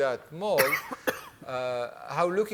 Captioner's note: coughing